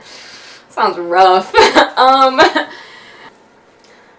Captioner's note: chuckles; laughs